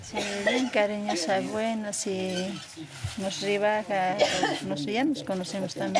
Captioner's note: villager speaking in foreign language